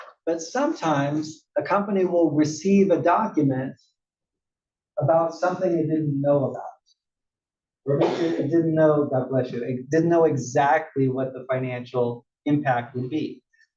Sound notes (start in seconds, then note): 7.9 cough